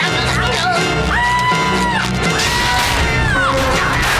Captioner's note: jabbering; screaming; jabbering